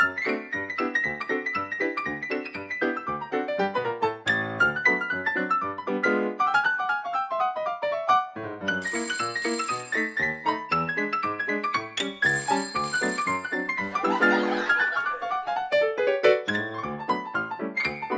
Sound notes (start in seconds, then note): 8.8 phone ringing; 12.2 phone ringing; 13.8 audience laughing